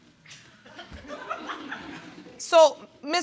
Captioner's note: audience laughing